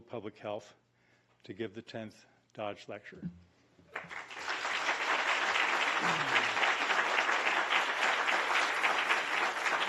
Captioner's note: applause